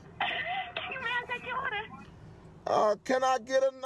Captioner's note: laughs